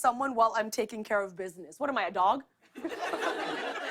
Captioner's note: laughter